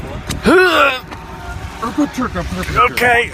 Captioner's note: strenuously grunts